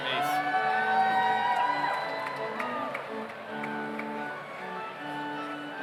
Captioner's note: overlapping chattering; audience cheers